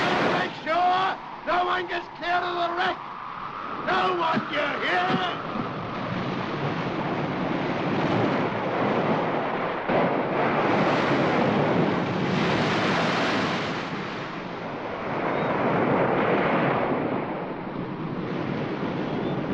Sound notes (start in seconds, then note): 0.0 screaming; 0.0 waves crashing; 4.7 wind howls & water splashes; 6.0 wind howling & waves crashing